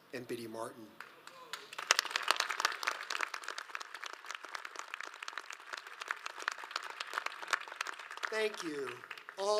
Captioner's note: audience applauds